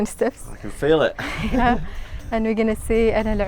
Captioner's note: laughing